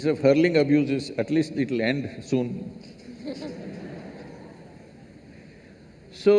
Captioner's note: laughter